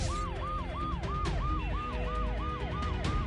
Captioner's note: ambulance Siren